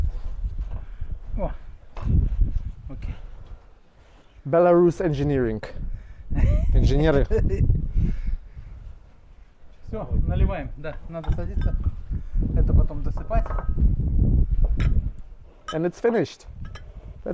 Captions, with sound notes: Okay. Belarus engineering. (man laughing) (dishes clanking) And it's finished.